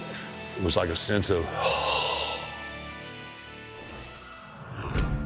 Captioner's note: sighs in relief